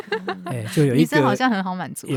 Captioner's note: haha